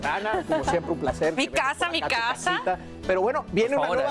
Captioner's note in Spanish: risas